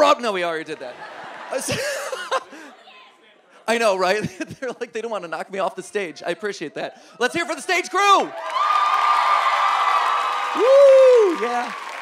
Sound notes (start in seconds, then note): 0.7 audience laughs; 9.0 audience cheering